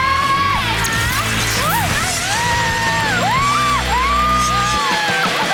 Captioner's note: yelling